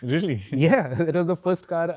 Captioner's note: chuckles